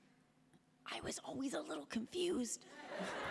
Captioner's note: Kat, whispering